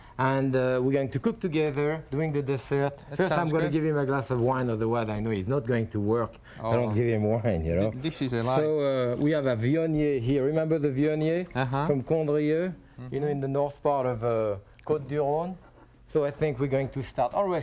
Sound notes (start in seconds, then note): 12.6 foreign language